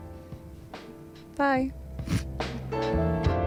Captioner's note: chuckle